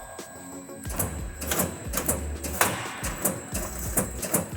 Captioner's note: machine clicks